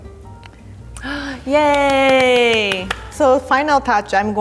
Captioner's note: clapping